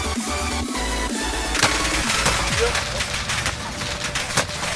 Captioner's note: weapons firing